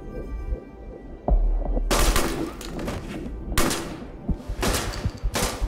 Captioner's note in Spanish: Disparos